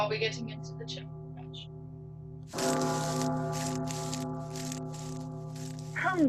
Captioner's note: footsteps